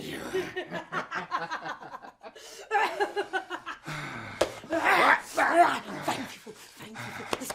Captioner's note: laughter